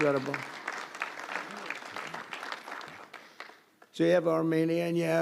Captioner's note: applause